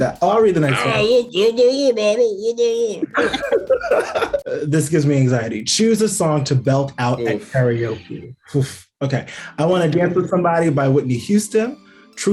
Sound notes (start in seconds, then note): 0.6 Brandon laughs; 1.1 Nick speaking gibberish; 3.0 Aidy and Brandon laugh